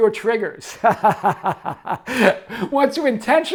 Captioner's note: laughs